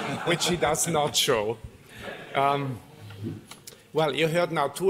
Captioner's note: laughter